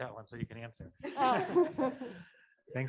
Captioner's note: laughter